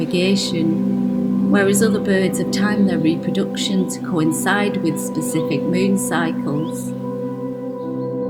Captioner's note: bird calls